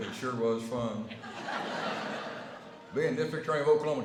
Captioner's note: laughter